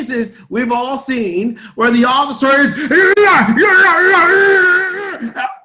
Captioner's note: screams